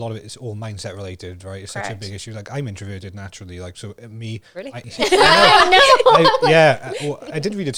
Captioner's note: laughs